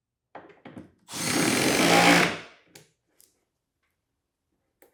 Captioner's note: drill whirring